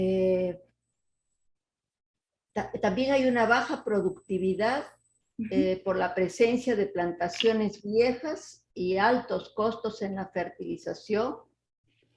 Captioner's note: speaking Spanish